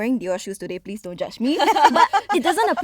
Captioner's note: girls laughing